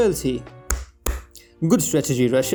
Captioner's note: clap